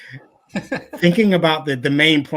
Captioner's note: laughing